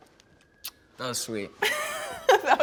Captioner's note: kiss